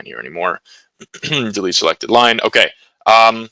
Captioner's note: clears throat